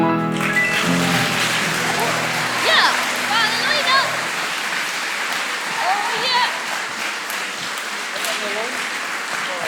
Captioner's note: applause